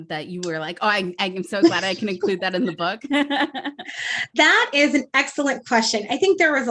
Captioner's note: laughs